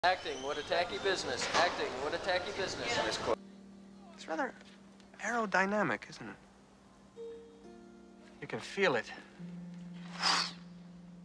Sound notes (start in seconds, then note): 10.1 whoosh